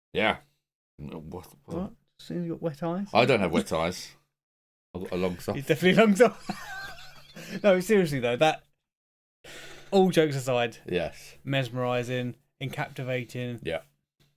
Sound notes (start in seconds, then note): 6.4 laughs